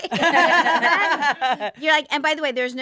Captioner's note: all laughing